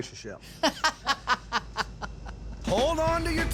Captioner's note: laughter